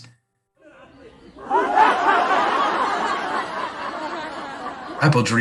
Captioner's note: group laughter